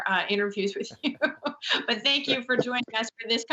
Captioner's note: laughing